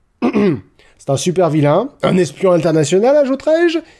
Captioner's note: ahem